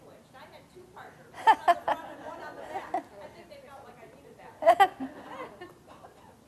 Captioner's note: audience laughing